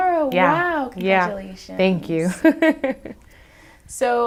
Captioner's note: laughs